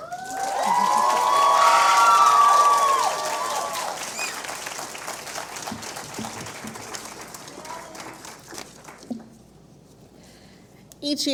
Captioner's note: cheers and Applause